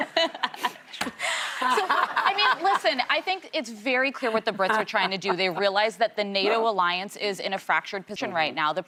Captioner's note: laughter